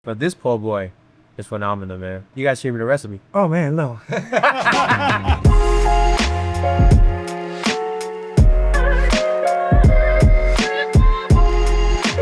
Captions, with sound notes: - But this po boy is phenomenal, man. You gotta share me the recipe. - Oh, man, no. [both laughing] [mellow music]